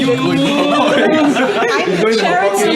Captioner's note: laughs